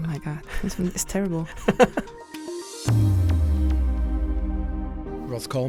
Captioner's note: voiceover